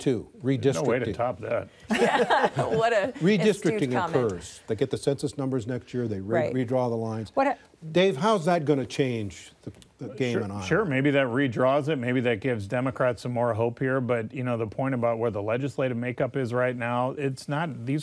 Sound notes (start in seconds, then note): 3.6 laughter